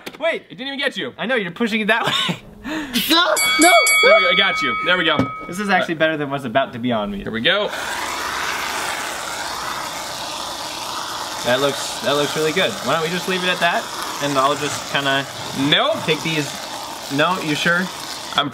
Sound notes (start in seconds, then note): 3.3 bell dinging; 8.4 spray can hissing